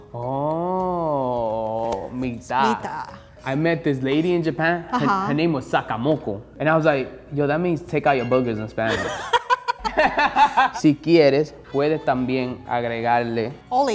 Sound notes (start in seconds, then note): 8.8 laughing; 10.7 speaking in foreign language